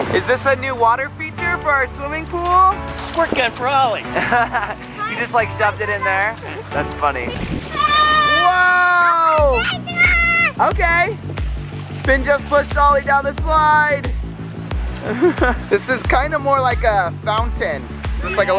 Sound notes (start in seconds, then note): 6.4 laughs; 9.8 yells; 15.0 laughs